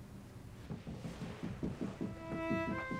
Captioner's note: light banging; instrumental music